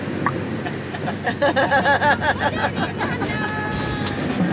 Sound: manic laugh

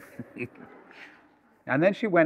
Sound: laughter

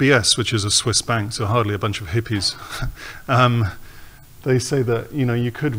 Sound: snickers

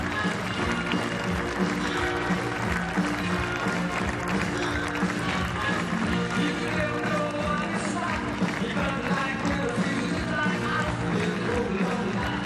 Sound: cheers and applause

